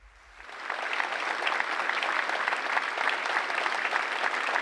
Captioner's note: audience clapping